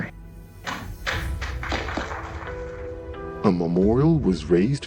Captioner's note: audience applauding